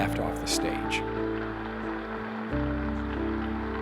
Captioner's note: cheers and applause